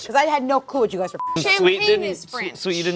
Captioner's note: beep